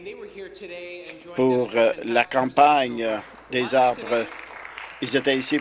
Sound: some Applause

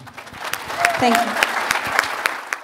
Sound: applause

